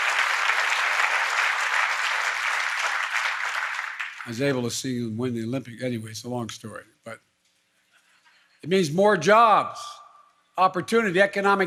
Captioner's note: applause